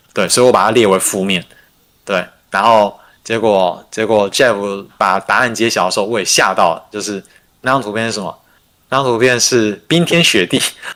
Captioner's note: non-english speech